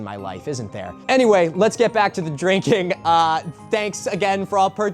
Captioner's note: laughs